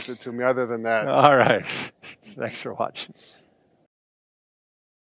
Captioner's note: laughing